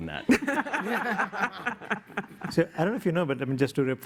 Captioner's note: laughter